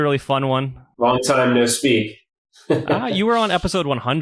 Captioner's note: laughs